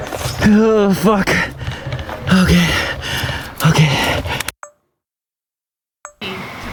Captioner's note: heavy breathing